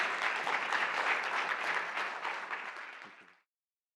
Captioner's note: audience applauding